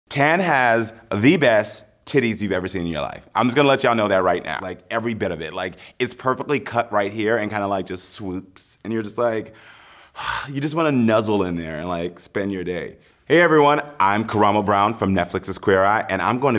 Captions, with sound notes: Tan has the best titties you've ever seen in your life I'm gonna let y'all know that right now like every bit of it like it's perfectly cut right here and kind of like just swoops And you're just like *exhale* You just want to nuzzle in there and like spend your day. Hey everyone. I'm Karamo Brown from Netflix's Queer Eye